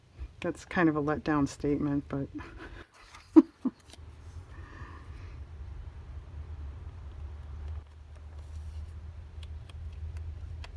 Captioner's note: laughs